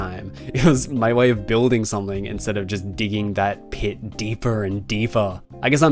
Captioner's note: hahah